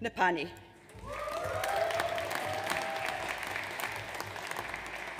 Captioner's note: audience cheers